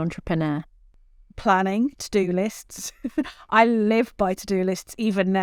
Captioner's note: chuckles